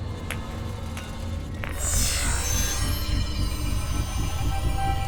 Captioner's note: electric beeping, trilling